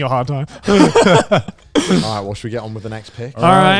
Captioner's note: both laughing